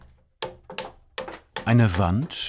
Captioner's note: hammering